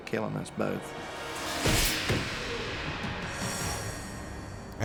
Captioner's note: metal clangs